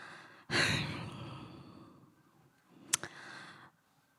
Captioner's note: sighing